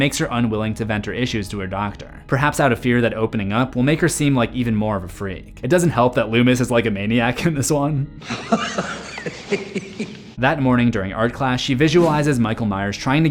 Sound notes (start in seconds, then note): 8.2 maniacal laughter